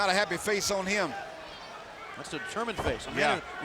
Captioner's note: fans cheering